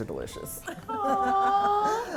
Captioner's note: laughs